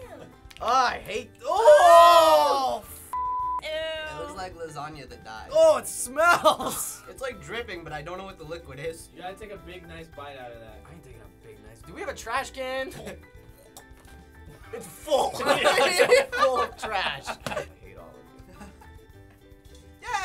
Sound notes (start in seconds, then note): 1.4 groaning together; 13.1 gagging; 15.4 laughter; 18.4 chuckles